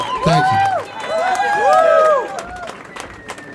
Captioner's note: applause